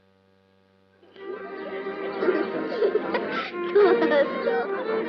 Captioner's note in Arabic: ضحك